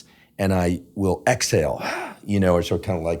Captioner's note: exhales